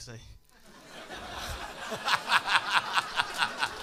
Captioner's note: laughter